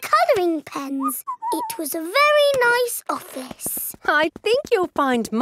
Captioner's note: whistles